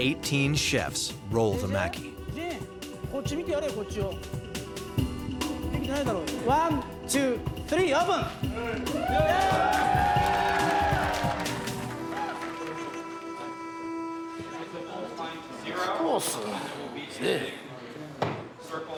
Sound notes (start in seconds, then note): 3.4 speaking in foreign language; 8.6 chefs cheering